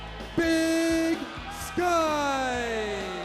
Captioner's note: crowd cheering